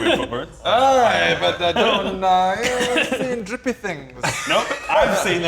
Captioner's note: incoherent wailing